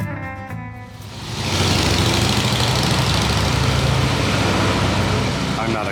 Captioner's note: motorcycle passing